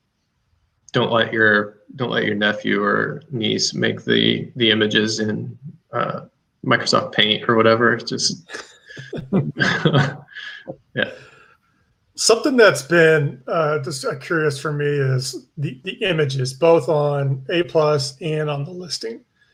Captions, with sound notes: Don't let your nephew or niece make the images in Microsoft Paint or whatever, it's just. (all chuckle) - Something that's been, just curious for me is the images both on A-plus and on the listing.